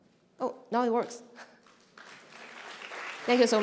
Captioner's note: applause